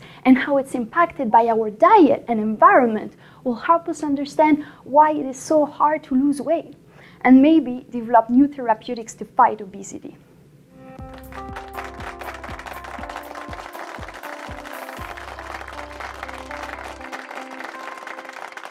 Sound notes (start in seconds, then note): 11.0 applause; 12.4 light instrumental music